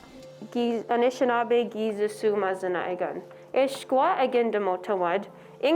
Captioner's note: speaking Ojibwe